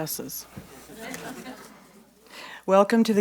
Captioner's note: audience chuckles